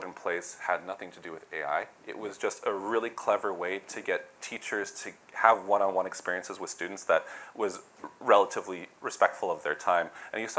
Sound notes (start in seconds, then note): none